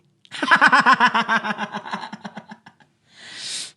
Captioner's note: laughs